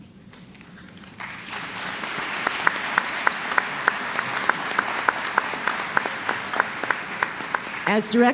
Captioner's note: applause